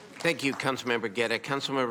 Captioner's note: applause